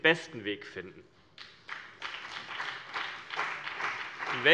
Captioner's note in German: Beifall CDU und BÜNDNIS 90/DIE GRÜNEN